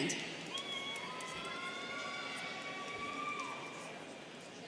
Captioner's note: students cheering